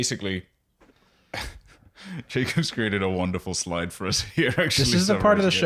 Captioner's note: laughs